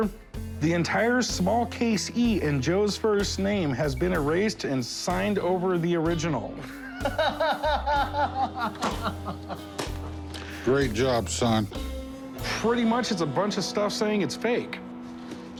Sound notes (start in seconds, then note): 6.6 laughs